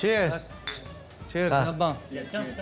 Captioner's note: glasses clink